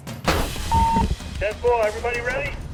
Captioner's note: beeps